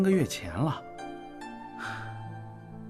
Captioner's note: Chu Yuan sighs